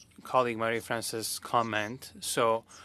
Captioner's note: speaking French